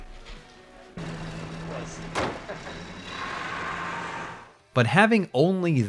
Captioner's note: engine idling, car door closes